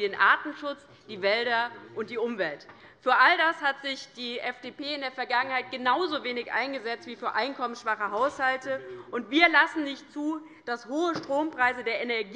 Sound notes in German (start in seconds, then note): none